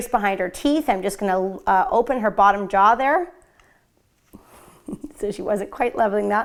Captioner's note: laughs